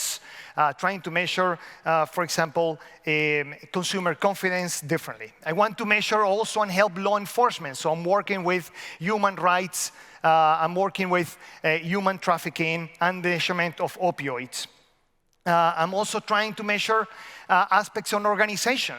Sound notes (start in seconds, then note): none